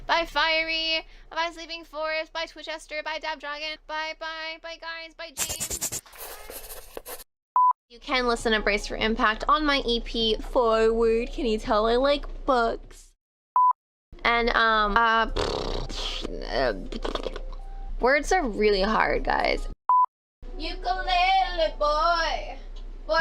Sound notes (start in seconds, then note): 7.6 beep; 13.6 beep; 15.2 blows raspberry; 19.9 beep